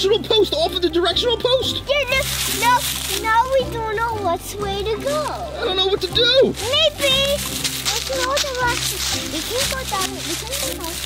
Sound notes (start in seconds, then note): 5.3 footsteps rustle in leaves